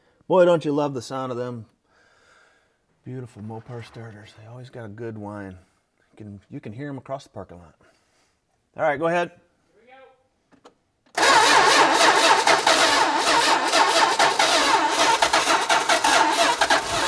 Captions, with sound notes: Boy, don't you love the sound of them. Beautiful Mopar Starters, they always got a good whine. You can, you can hear them across the parking lot. All right, go ahead. - Here we go. (ignition stuttering)